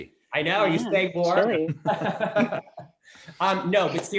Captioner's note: laughing